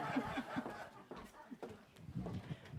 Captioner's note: laughter